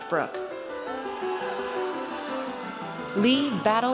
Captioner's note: audience cheers